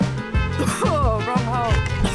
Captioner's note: cough